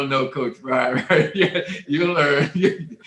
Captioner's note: panelists laughing